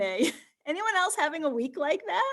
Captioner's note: chuckles